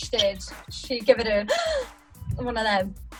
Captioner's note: gasps